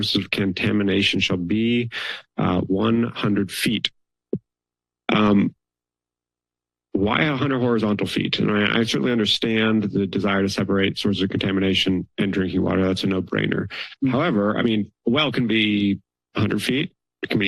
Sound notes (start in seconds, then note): 5.1 pause